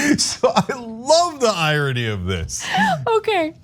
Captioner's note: laugh